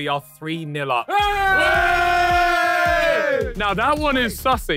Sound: cheering

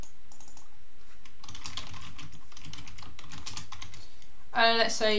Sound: keyboard clicking

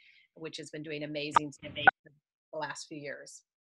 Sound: phone beeps

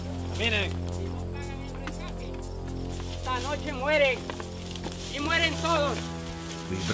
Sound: in Spanish

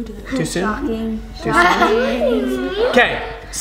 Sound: laughing

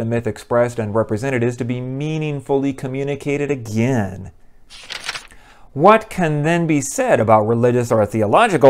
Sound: page turn

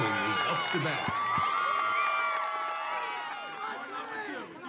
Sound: crowd cheering

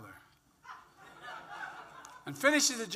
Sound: laughter

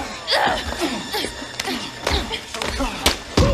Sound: Meg grunting; thuds

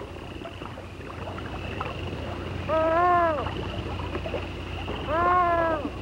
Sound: loon sounds

